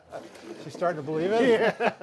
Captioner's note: laughs